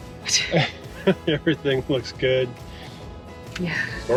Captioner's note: laughs